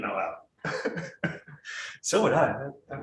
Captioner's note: laughing